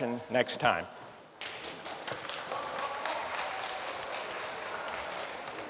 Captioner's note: applause